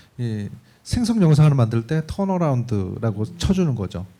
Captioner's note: speaking korean